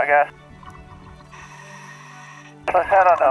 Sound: classical music playing; deep breathing

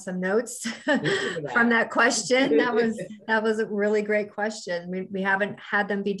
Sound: laughs

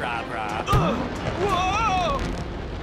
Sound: grunting

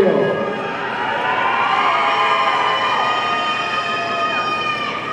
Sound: audience cheering

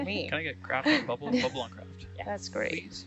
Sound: woman laughing

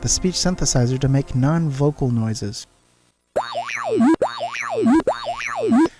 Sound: computerized noises

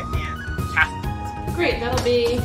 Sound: laughs

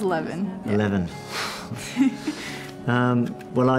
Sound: both chuckle

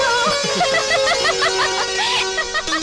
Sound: laughing

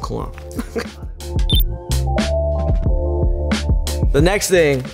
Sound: chuckles; electronic beep; hip hop music

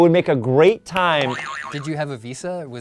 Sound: boing sound

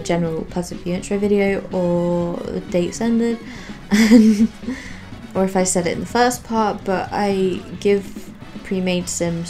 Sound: laughs

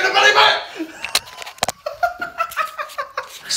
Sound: laughter

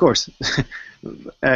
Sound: laughs

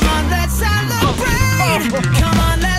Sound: sliding noise

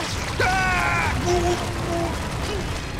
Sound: muffled screaming; screams

